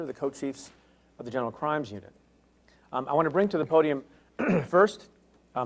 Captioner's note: clears throat